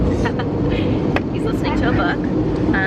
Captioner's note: chuckles